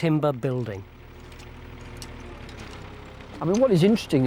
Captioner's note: excavator engine revs